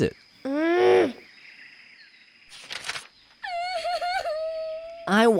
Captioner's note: angry grunt